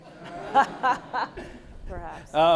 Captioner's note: everyone laughs